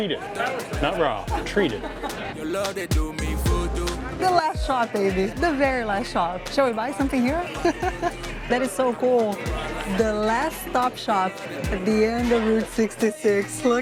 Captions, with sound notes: - Treated. Not raw. Treated. - The last shop, baby, the very last shop. Shall we buy something here? [laughs] That is so cool. "The last stop shop at the end of Route 66."